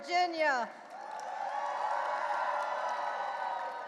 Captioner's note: audience cheering and applauding